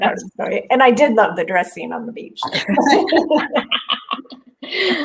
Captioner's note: laughs